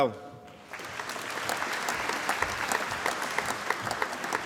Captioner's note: applause